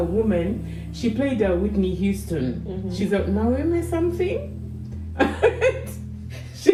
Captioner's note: uncontrollable laughter